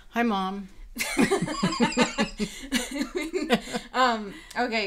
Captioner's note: laughing